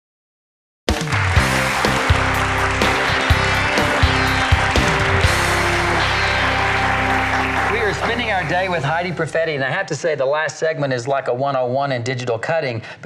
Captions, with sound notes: (audience applauds) - We are spending our day with Heidi Proffetty, and I have to say the last segment is like a one-on-one in digital cutting,